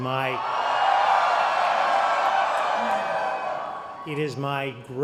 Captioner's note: cheering